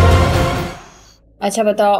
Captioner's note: Car approaching